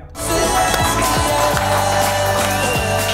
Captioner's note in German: Jubel, Applaus